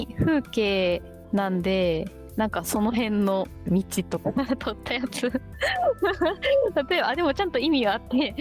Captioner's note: laughs